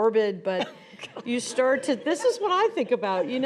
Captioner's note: snickers